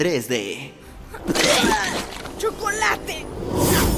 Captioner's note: spits with contempt